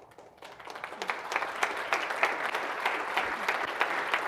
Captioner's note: audience applauding